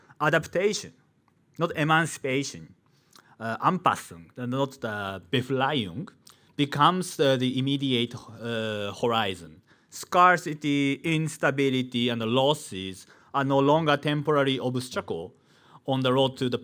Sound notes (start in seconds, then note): 4.1 man speaking in foreign language